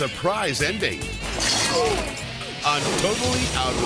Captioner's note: fence rattling